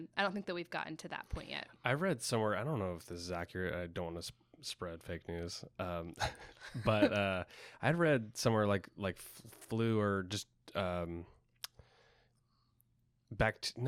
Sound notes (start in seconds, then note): 6.0 chuckles